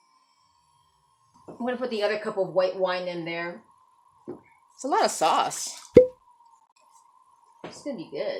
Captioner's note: wine bottle pops